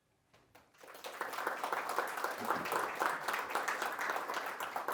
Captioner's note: applause